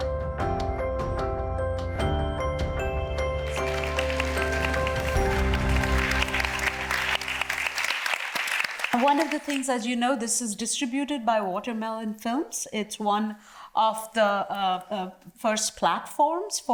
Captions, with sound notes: (audience applauds) - One of the things, as you know this is distributed by Watermelon Films. It's one of the first platforms